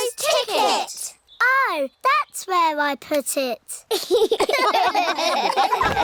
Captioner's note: all laugh